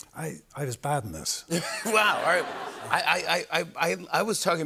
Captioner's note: laughter